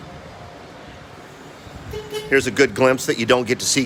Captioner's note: motors of passing forklift whir; worker on forklift honks the horn